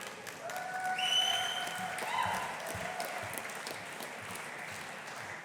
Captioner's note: audience applauding